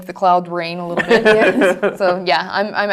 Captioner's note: laugh